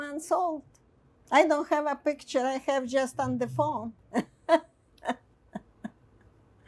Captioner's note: laughing